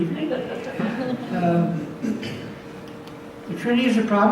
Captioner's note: audience laughs